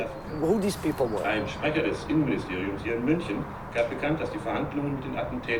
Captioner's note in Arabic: الصوت المنطوق باللغة الألمانية